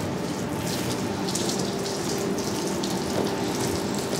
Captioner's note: splashing, machine whirring